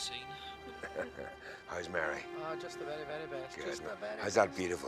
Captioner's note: laughs